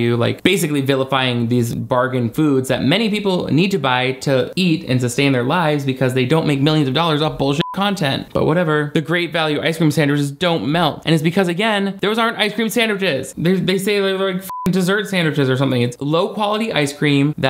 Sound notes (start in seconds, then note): 7.6 beep; 14.4 beep